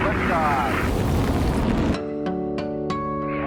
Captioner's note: shuttle lifting off